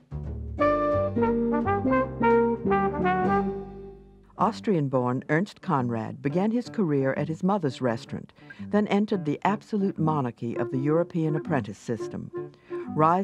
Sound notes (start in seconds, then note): 0.1 upbeat jazz music; 4.6 voiceover